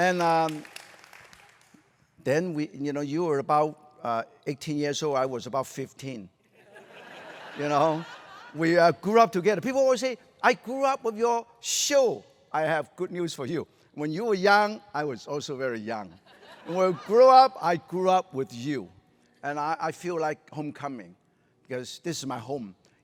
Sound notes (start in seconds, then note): 0.0 applause; 6.6 laughter